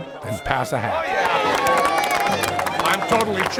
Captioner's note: crowd cheering